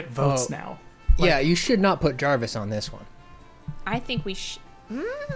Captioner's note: pat